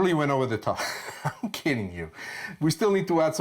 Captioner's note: chuckles